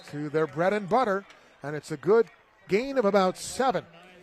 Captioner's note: applause